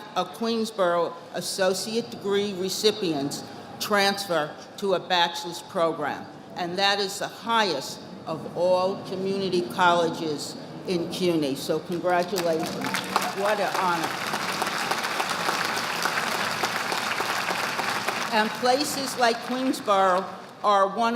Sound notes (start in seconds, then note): 14.4 audience applauding